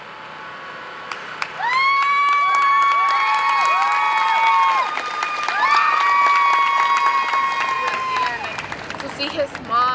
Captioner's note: applause